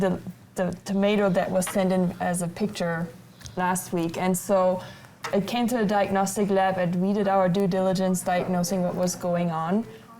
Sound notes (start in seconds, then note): none